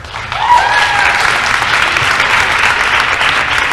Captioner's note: applause